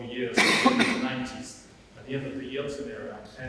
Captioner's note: audience member coughing